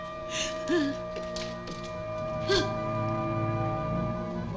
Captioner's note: Emiko whimpering